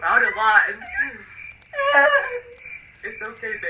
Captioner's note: crying